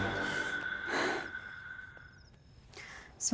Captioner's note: Exhales sharply